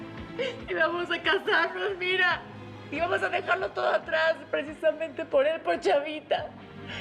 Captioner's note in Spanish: sollozos